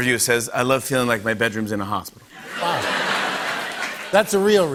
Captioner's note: laughter